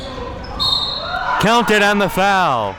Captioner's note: whistle being blown